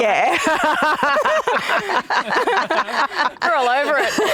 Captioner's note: both laughs